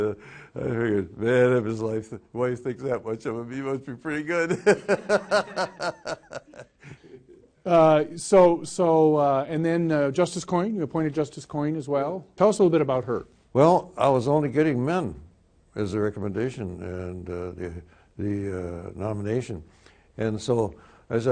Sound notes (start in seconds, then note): 4.5 laughs